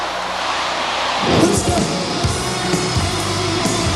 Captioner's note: crowd